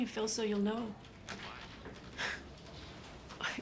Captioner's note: scoffs